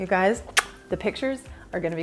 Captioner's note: lips smacking